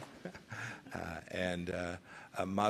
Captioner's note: laughter